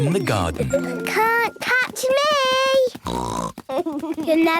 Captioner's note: snort